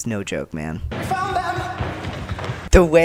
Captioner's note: thundering footsteps